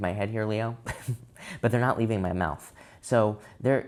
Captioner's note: chuckles